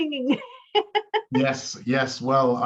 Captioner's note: laughs